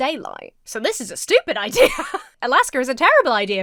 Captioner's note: Emma laughs